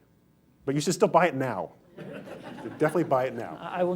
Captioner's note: laughter